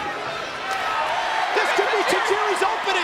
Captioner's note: crowd cheering